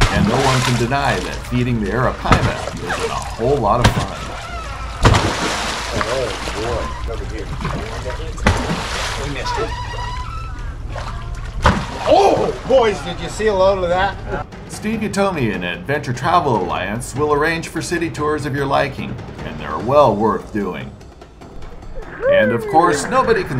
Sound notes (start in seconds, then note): 7.0 fish splashing; 7.9 background chatter; 8.8 fish splashing